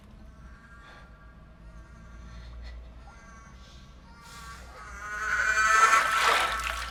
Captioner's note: babies cries, escalating; babies shriek, water splashing